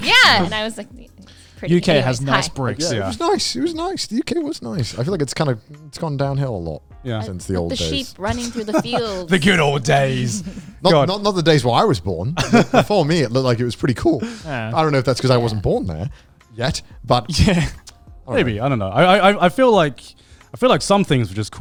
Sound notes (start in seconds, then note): 17.6 laughs